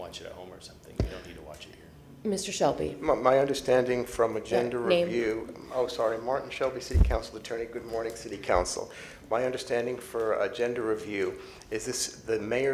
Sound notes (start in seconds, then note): none